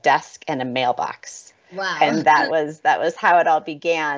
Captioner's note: laughs